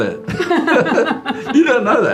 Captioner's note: both chuckle